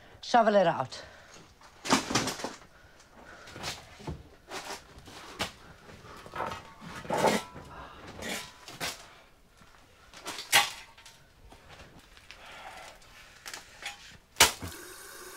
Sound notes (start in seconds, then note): none